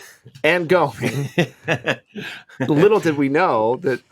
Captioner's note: Paul laughs